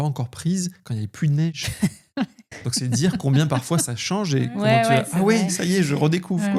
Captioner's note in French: rires